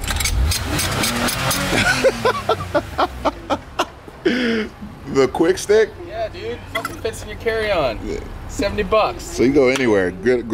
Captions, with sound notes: (laughs) - The quick stick? - Yeah, dude, fits in your carry on, $70 bucks. - So it can go anywhere?